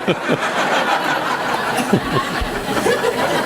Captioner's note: laughing